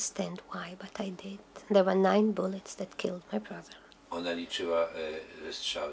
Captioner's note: speaking Polish